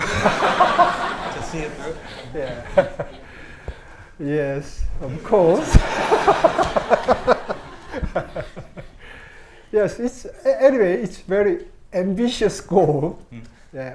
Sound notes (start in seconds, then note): 0.0 everyone laughing; 5.1 audience laughs; 5.1 laughs